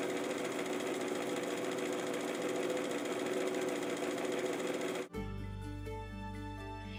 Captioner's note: machine noise